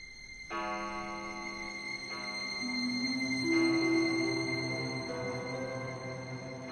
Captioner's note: clock chimes midnight